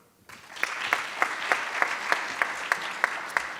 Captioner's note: audience claps